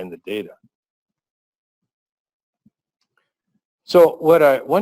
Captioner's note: pause